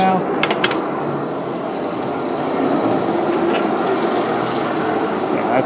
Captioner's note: device sliding